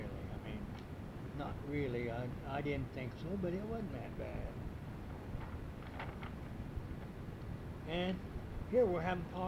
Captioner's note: pages turning